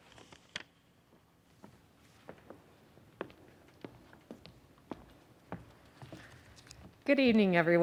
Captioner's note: footsteps